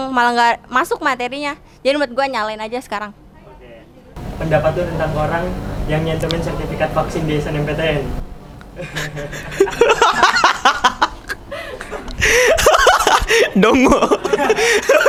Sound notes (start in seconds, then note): 8.7 laughing loudly; 14.2 still laughing